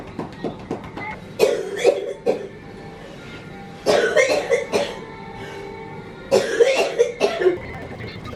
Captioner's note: coughing